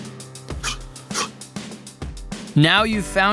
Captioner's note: sharp exhaling